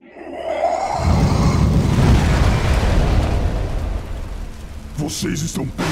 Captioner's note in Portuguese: Trovão